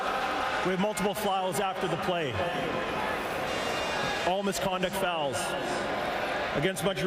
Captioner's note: crowd Noise